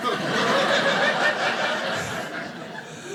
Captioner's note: audience laughing